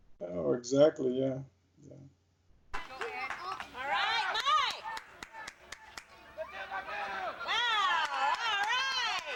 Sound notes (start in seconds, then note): 5.6 hands clapping, crowd cheering